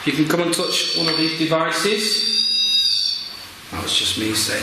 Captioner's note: squealing